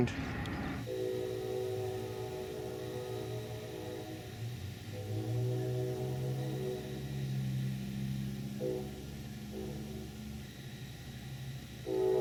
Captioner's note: periodic train horn